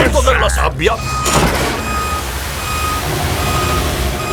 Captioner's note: beeping